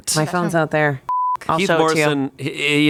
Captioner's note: beep